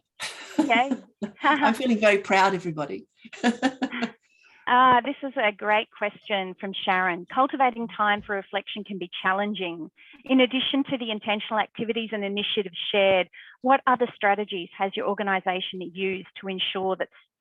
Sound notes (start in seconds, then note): 3.2 laughing